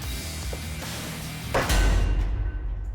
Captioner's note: thudding